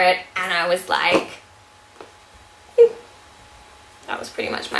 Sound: makes little crying noise

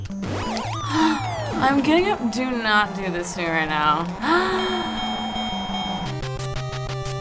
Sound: sighing; gasping

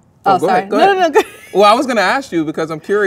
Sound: laughs

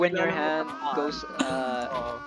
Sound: chuckles

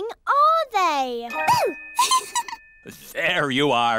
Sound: giggles

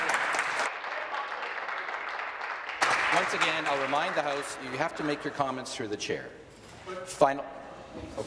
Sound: applause

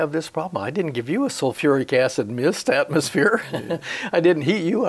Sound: he laughs

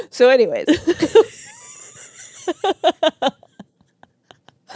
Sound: laugh

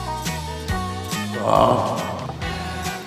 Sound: ahhh!

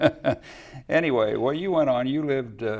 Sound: laughs

